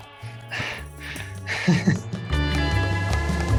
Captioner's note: laughs